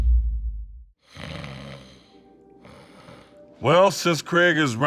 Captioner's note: snoring